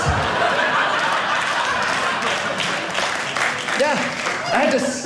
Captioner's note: audience laughing; audience clapping